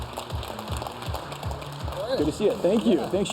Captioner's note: applause